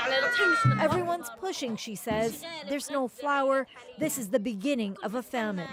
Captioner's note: speaking alternate language